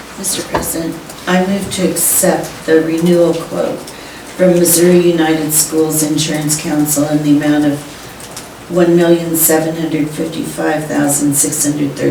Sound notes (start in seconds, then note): none